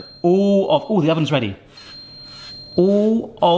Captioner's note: oven beeps